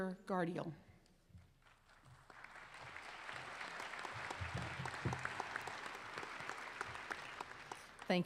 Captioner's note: applause